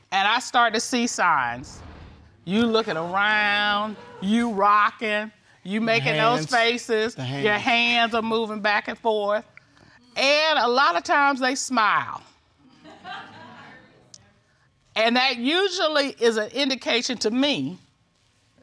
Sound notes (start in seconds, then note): 12.6 laughter